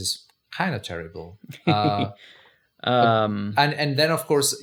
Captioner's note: laughs